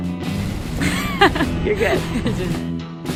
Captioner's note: suspenseful music; woman laughs